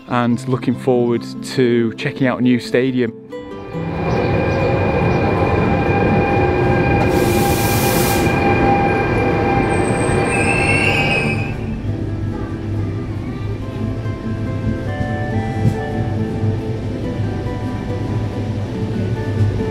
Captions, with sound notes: and looking forward to checking out a new stadium. (train engine roaring) (train hissing) (train wheels screeching) (gentle music)